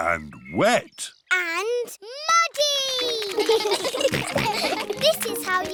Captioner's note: children giggle